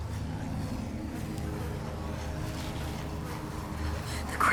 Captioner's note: fly buzzing